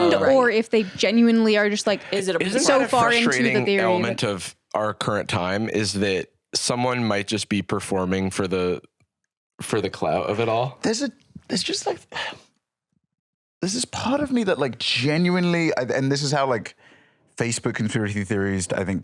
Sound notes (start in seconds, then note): 12.1 sighs